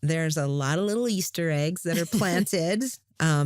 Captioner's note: chuckles